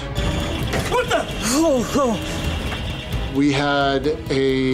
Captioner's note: alarm sounding